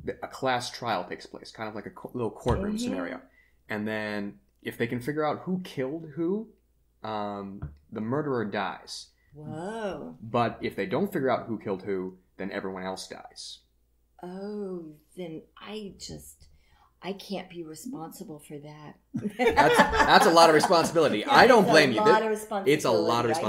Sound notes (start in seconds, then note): 19.2 laughs in background